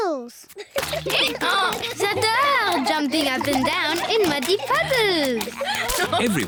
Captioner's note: brays